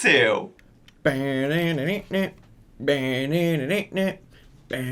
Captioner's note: humming tune